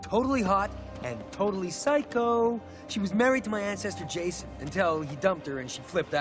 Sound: none

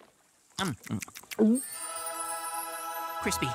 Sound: chews and swallows

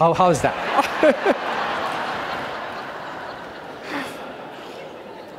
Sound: audience laughing

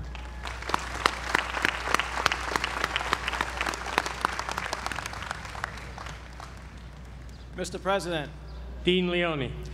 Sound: applause

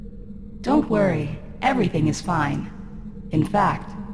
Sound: simulator voice

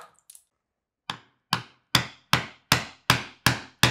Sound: hammer taps

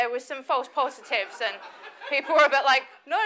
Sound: audience laughs

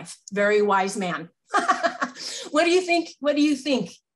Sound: laughs

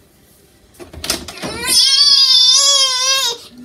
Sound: baby crying

